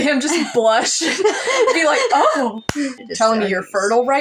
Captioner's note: chuckle; laugh